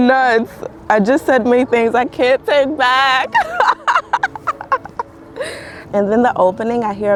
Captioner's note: laughing